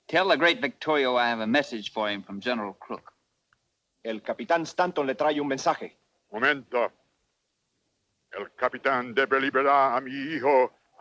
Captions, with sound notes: - Tell the great Victorio I have a message for him from General Crook. (Ramirez speaks Spanish) (Victorio speaks Spanish)